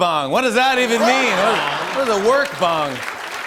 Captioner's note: laughter; applause